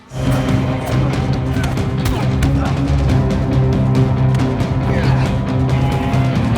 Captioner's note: tense music; men grunting